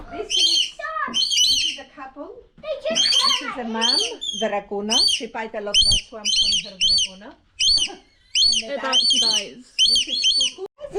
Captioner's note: birds chirping